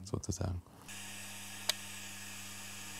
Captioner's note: low whirring